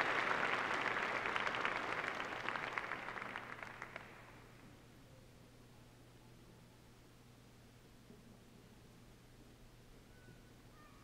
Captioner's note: applause